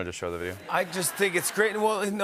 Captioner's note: laughter